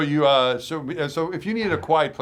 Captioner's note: laughing